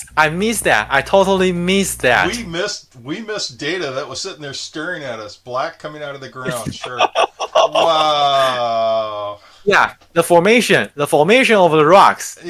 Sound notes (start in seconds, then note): 6.4 laughing